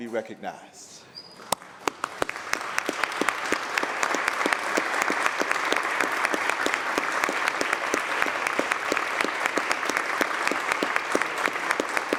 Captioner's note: applause